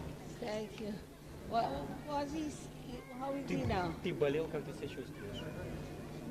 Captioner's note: russian